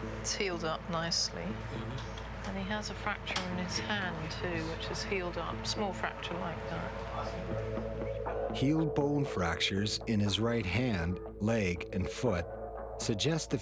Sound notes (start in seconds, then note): 8.7 voiceover